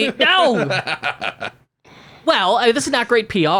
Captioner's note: laughs